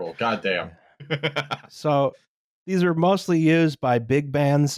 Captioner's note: laughs